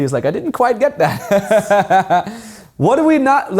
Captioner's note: laughing